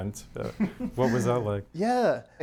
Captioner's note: chuckles